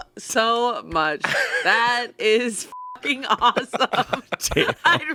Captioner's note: beep